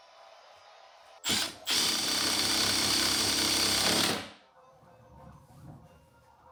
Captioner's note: electric screwdriver whirs